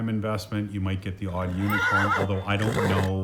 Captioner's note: unicorn braying